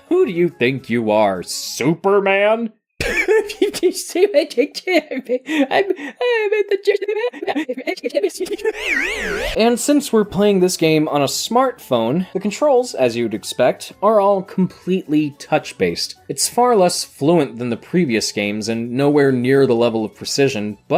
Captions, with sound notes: Who do you think you are, Superman? (chuckles) Aaah, I made the j- (audio reverses and wobbles on the inhale) And since we're playing this game on a smartphone, the controls, as you'd expect, are all completely touch-based. It's far less fluent than the previous games and nowhere near the level of precision,